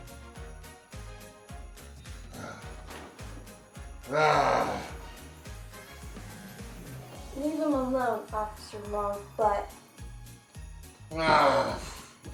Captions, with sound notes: (Longbutt groans) - Leave him alone, Officer Longbutt. - Ah.